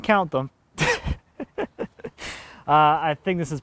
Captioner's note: laughing